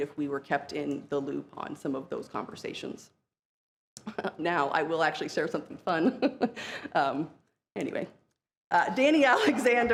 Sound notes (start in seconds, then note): 7.2 laughs